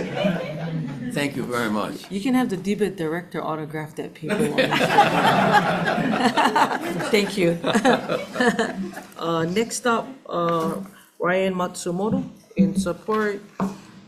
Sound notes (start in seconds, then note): 4.4 everyone laughing; 8.5 laughs